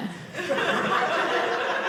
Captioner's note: audience laughing